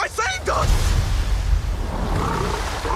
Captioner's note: water splashing; lion growling